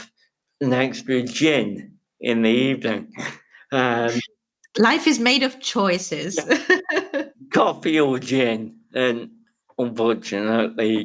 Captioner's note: giggles; laughs